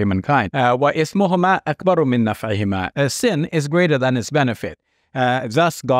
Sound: speaks Arabic

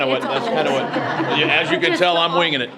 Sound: group laughs

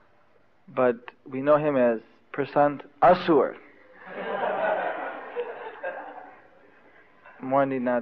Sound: devotees laugh

